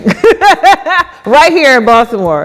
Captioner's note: laughs